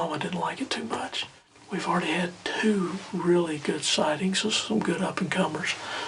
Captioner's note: whispering